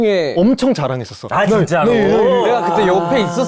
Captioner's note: jae-won sounds excited